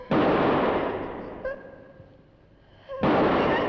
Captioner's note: gun firing; Pat whimpering